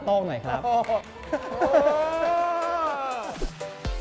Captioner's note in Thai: เสียงปรบมือ